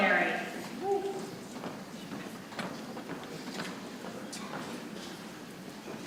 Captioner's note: people chattering softly